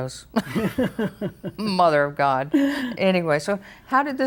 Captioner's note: laughs